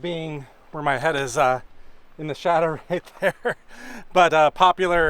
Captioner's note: laughter